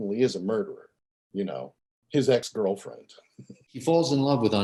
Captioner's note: laughs